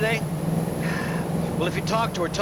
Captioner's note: sighs